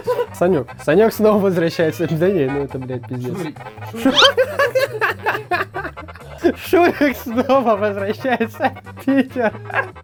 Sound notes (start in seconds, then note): 3.9 giggles; 8.1 laughts his ass off